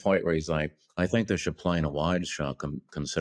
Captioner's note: imitating kubrick